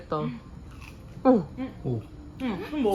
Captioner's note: crunch